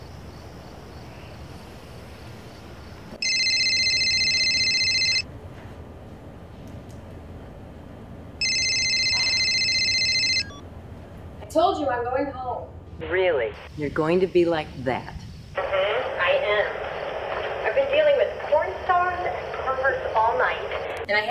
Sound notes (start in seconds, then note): 3.2 beeping ring